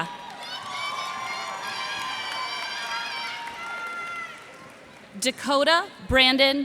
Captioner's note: cheers and applause